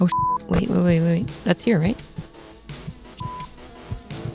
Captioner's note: radio turns on